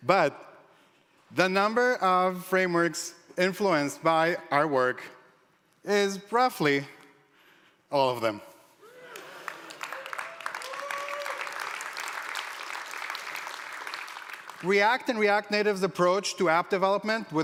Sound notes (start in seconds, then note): 9.1 applause